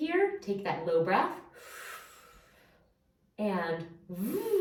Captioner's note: inhaling